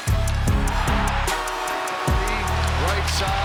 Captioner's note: crowd cheering; dramatic music continues; goal Horn